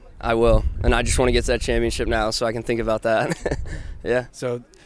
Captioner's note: laughs